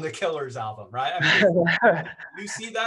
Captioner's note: laughs